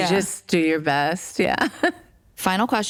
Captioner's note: chuckles